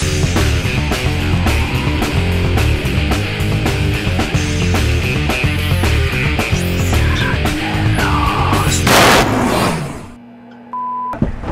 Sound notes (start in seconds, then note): 0.1 heavy metal playing; 5.4 demonic whisper, jarring sound